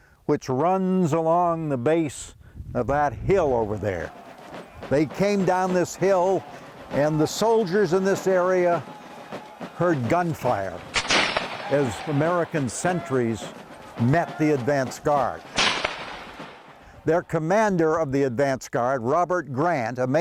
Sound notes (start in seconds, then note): 4.6 drums sounding; 10.8 guns crackling